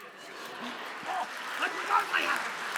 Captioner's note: audience laughing